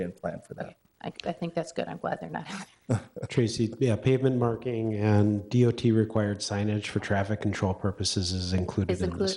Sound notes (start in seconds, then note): 2.9 laughs; 2.9 laughing